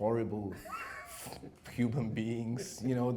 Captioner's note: laughs